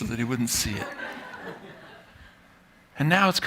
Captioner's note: laughter